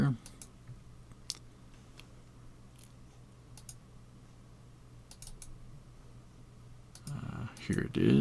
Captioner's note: mouse Clicking